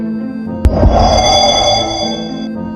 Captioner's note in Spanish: Sonido de teletransportancion